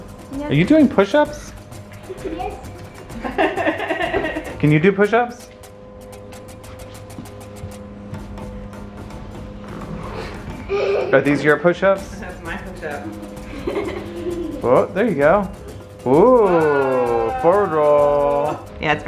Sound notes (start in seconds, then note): 3.1 mom laughing